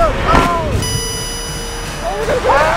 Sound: beeps

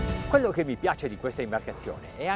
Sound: speaking in foreign language

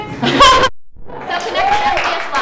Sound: clapping

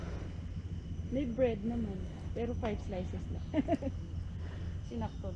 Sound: laugh

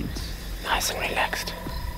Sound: whispering

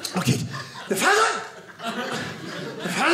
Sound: audience laughing

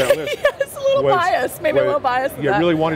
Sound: laughs

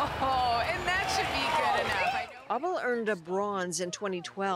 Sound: applause

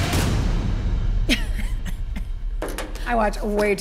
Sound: chuckles

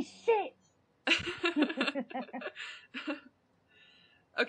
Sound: they laugh

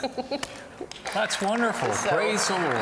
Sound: laughter; applause

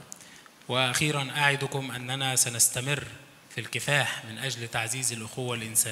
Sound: speaks in foreign language

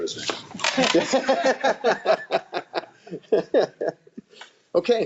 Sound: all laughing

